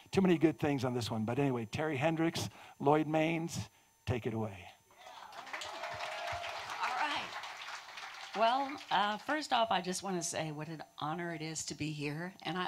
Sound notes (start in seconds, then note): 5.0 audience cheers